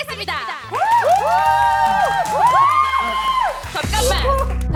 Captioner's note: cheers and applause from multiple people